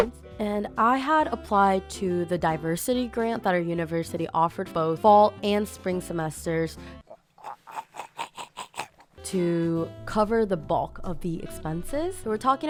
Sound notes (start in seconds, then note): 7.1 laughs in evil